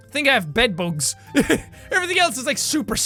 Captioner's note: laugh